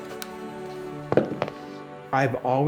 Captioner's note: peaceful music; wood thuds